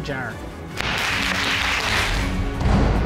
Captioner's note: audience applauding